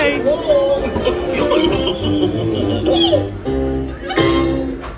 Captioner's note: Goofy chuckles